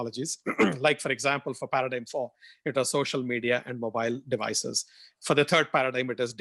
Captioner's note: cough